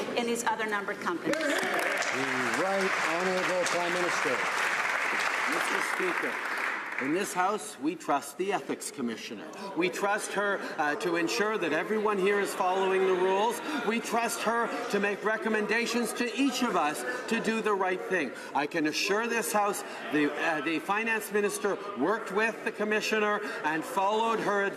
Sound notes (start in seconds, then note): 4.4 some Applause